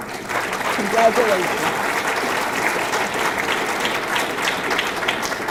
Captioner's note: audience clapping